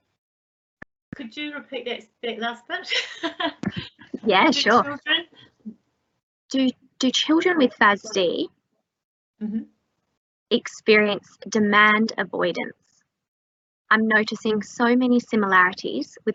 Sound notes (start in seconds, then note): 2.9 laughs